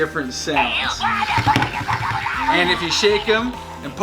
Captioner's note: Scorch chatters